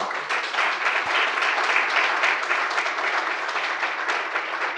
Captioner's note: audience applauds